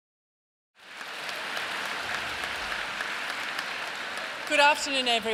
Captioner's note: applause